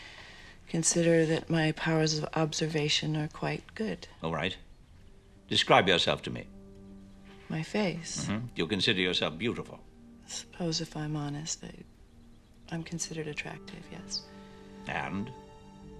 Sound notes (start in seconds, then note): none